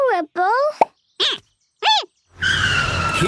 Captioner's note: squeaking